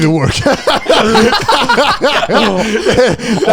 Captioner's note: laughing